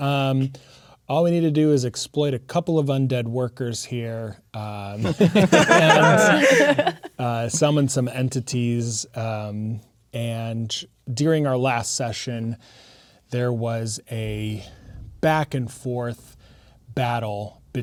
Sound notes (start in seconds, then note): 5.0 players laughing